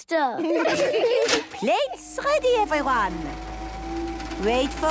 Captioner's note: clicks; super toaster vibrating